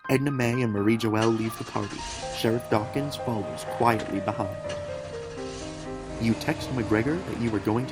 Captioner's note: two cars start